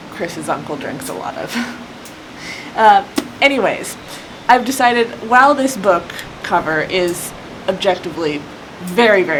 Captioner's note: book slap